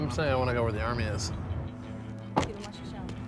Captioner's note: speaking Hebrew